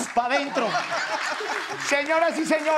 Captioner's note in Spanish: Risas